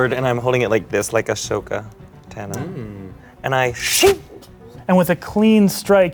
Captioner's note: slicing noise